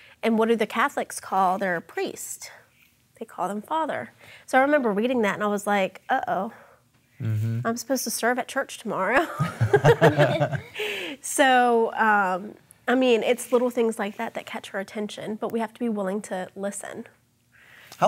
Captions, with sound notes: And what do the Catholics call their priests? They call them Father. So I remember reading that and I was like, "Uh oh, I'm supposed to serve at church tomorrow." (all chuckling) So I mean, it's little things like that that catch our attention, but we have to be willing to listen.